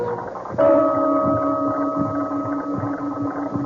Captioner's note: bell ringing